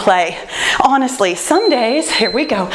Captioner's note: timer beeps